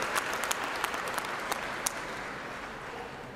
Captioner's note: applause